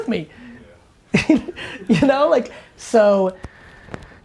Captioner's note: laughter